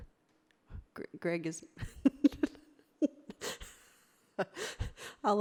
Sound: laughs

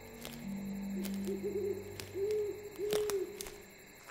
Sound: dramatic music; owl hoots

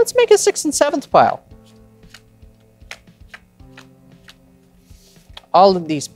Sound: cards slapping

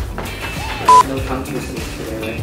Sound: beeping

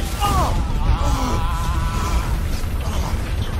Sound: man groaning

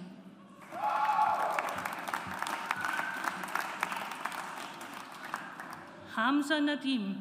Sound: audience applauds

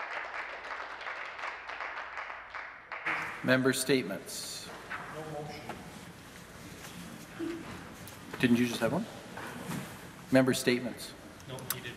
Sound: some Applause

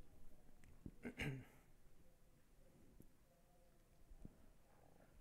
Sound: coughs

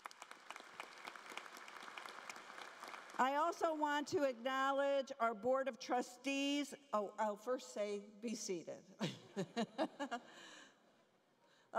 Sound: applause

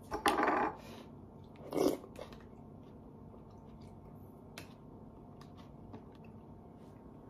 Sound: slurping

